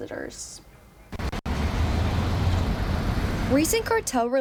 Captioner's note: traffic rumbles and ticks